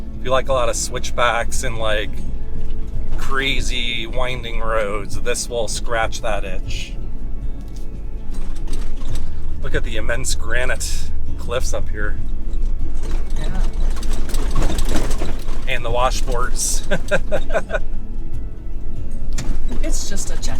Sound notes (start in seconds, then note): 16.8 laughrer